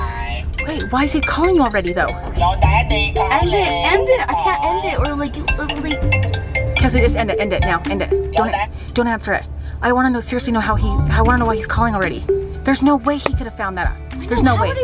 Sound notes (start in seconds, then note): 2.5 ringtone